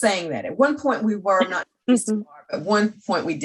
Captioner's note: laughing